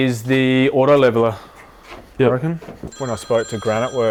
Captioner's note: phone rings